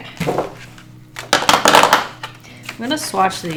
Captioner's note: markers clatter on desk